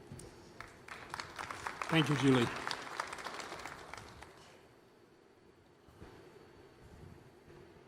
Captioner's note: applause